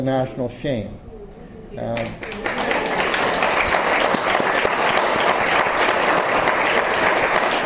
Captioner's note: audience applause